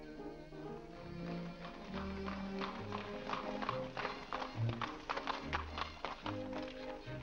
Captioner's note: piano plays; hooves trotting; ballroom music